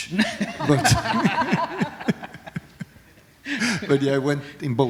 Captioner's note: laughter